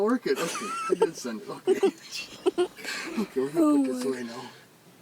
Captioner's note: laughs